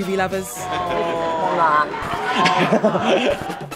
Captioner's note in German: Gelächter